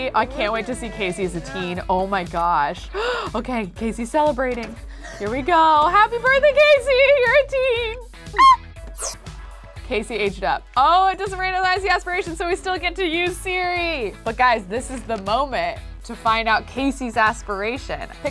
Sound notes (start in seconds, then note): 2.9 gasps; 8.3 Kelsey squeals